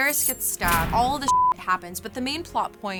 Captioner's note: beep